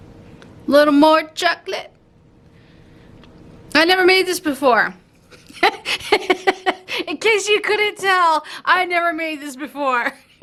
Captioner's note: laughs on camera